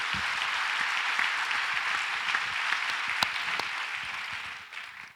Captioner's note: audience applauds